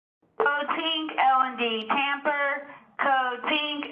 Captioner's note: loudspeaker